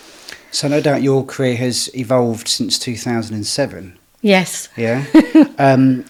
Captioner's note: laughing